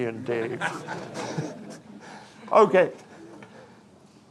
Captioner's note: audience chuckling